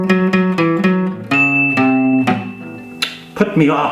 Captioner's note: alarm Sounds